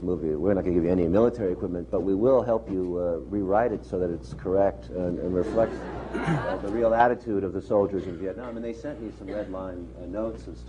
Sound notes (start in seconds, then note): 5.4 laughter